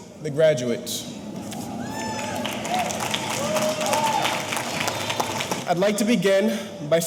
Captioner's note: audience cheering; audience applauding